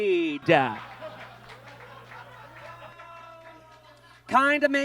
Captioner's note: audience laughs